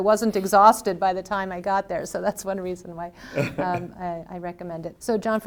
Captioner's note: laughs